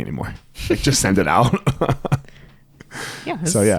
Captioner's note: both laugh